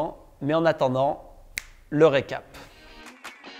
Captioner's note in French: claquement des doigts